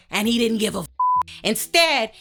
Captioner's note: beep